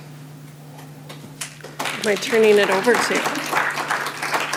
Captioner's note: applause